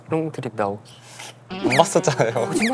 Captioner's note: haha